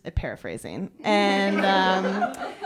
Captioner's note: laughter